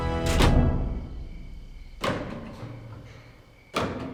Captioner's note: crickets chirping